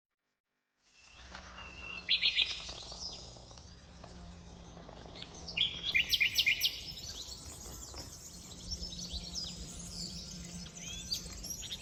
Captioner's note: birdsong